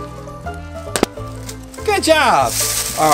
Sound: balloon pops

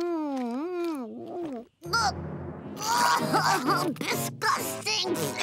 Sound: groaning

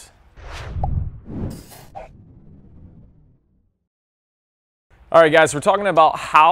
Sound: swoosh; pop

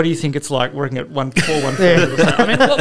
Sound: laughter

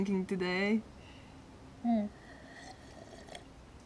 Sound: sips tea

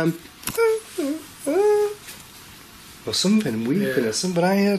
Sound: imitating cry

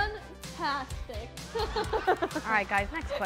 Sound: laughing

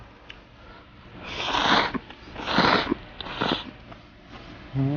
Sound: slurping noodles X 13

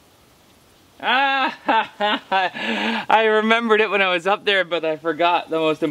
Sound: laughs

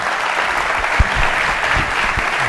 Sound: audience applauds

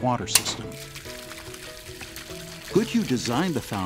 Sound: sounds of water running

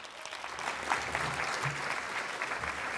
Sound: applause

